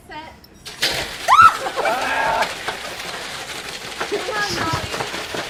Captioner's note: loud whisking against bowls